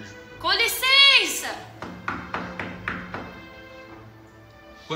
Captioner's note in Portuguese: bate na porta